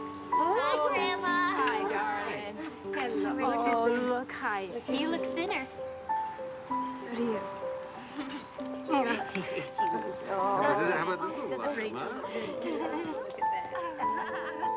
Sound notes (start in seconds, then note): 7.9 laughs